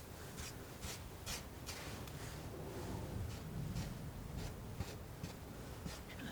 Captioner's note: tapping